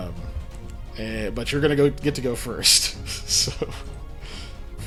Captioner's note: laughs